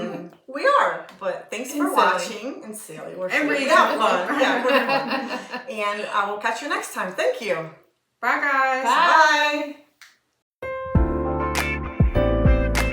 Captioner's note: laughter. Incoherent words